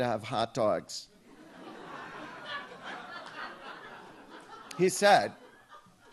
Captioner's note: audience laughs